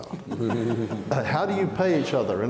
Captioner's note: audience laughing